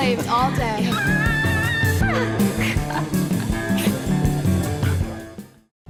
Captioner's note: laughs